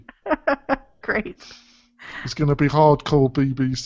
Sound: laughs

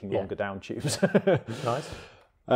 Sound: laughs

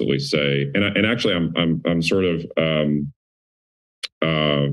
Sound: clicks tongue

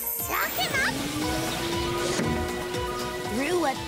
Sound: whirring

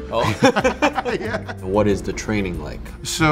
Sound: laughter

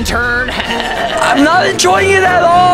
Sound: cackles

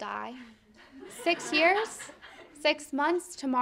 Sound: audience laughing

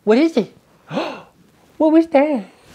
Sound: gasps

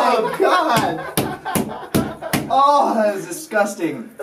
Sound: laughing

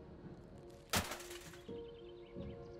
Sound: parts Clattering

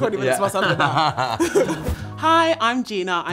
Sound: laughter

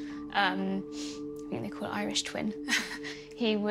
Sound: laughs

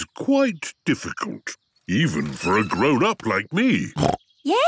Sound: snorts

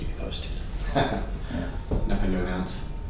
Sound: laughing

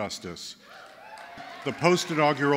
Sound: cheers

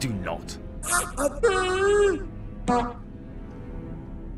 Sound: more insulting noises, flatulence

